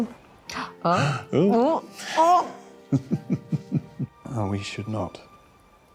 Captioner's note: chuckling